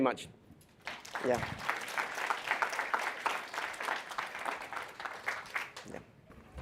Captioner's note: applause